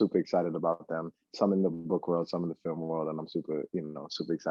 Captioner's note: laughs